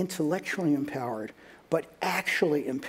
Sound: none

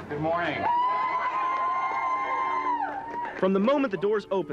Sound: crowd cheers

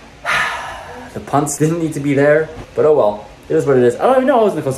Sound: sigh

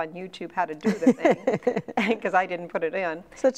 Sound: laughing

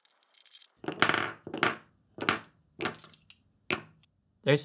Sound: marbles knock on wood

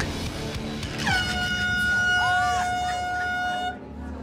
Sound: hooting

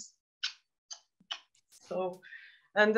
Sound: smooching

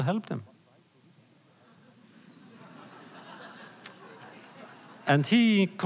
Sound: laughter

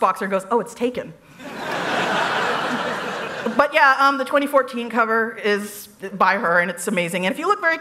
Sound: laughter

